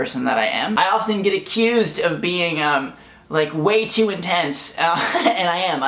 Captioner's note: laughs